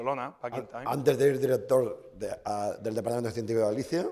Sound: speaking spanish

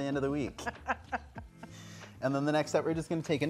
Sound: laughing

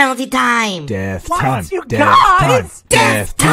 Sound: chanting

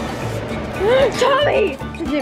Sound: gasps

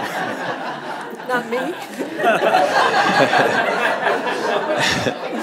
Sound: audience laughs

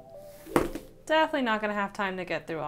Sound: books thudding

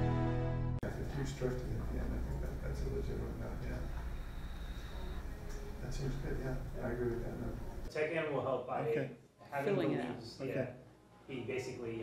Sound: talking quietly

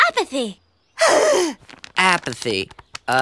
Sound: gasping

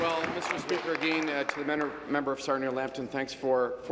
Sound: applause

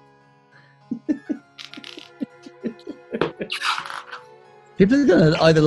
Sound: giggling

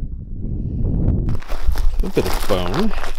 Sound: footsteps on gravel

